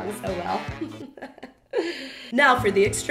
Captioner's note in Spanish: risa de bruja